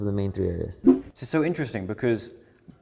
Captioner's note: graphics whooshing